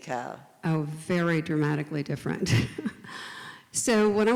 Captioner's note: laughs